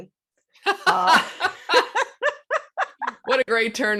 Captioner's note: laughing